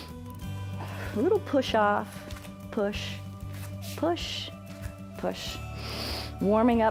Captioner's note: inhales; inhales